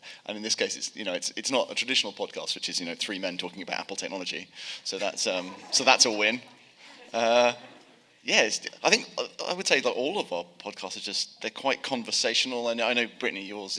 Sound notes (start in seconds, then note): 5.0 audience laughing